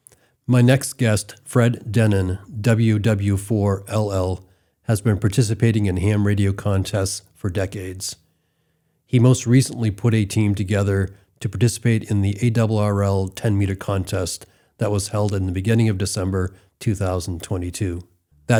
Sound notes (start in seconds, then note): none